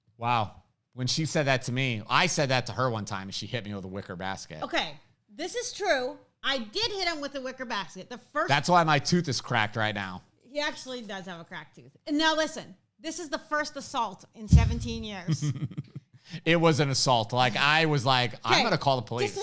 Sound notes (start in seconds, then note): 15.2 chuckles